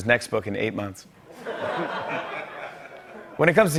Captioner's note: laughter